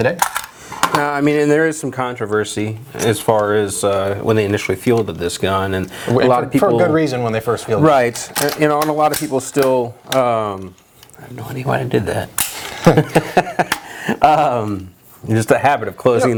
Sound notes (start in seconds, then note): 12.6 laughing